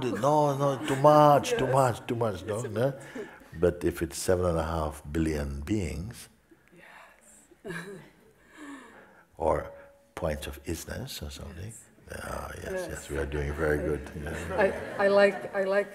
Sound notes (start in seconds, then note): 13.5 smiechov